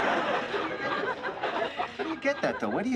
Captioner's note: laughter